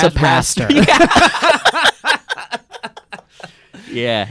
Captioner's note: laughing